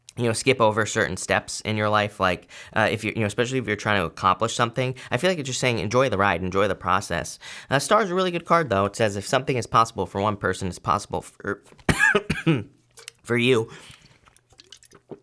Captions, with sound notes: you know, skip over certain steps in your life. Like if you're, you know, especially if you're trying to accomplish something, I feel like it you're saying enjoy the ride, enjoy the process. Star a really good card though. It says, if something is possible for one person, it's possible for you. (chokes)